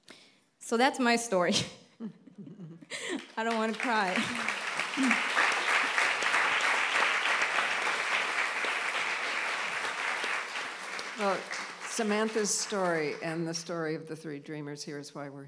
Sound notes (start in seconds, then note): 7.0 appluase